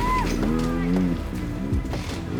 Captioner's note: engine revving